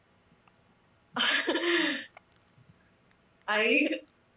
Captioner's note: Fragende lacht